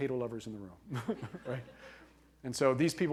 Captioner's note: laughing